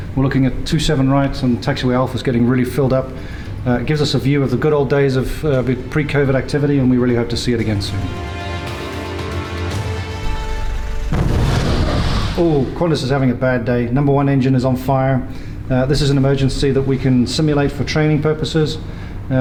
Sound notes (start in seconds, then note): 7.4 upbeat music; 10.9 plane blasts